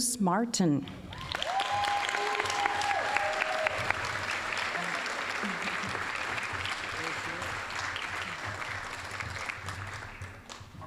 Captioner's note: applause